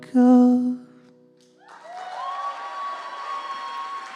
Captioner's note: cheering and applause